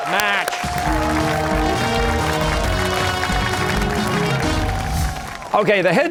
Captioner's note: cheers and applause